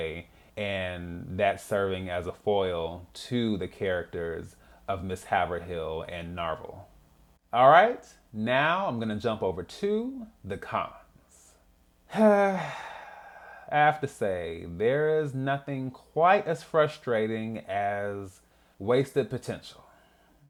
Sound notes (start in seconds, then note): 12.1 sigh